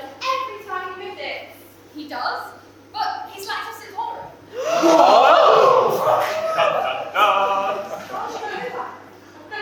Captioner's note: everyone gasps